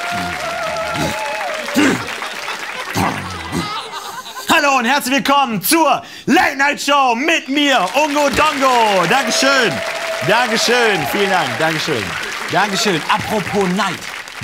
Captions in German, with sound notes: [grummelt] Hallo und herzlich willkommen zur Late Night Show mit mir, Ungo Dongo! Dankeschön! Dankeschön. Vielen Dank. Dankeschön. Dankeschön. Apropo Night.